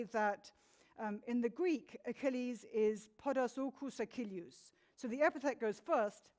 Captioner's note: speaks in foreign language